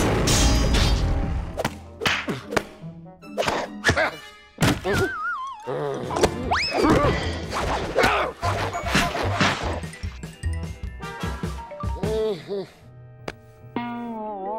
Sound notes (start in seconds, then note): 2.3 grunting; 12.0 groans